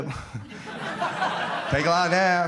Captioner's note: crowd laughs